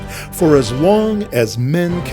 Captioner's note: none